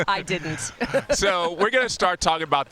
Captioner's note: laughs